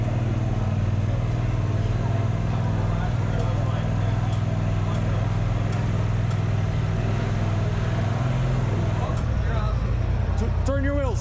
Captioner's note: crowd chattering